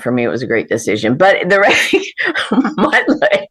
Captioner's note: laughs